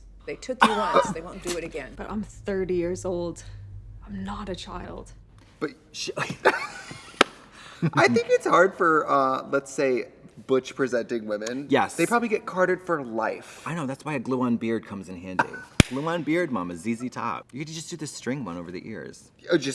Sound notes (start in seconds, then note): 0.6 Katya laughs; 6.3 both laugh; 15.4 Trixie laughs